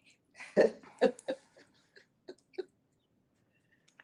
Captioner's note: laughter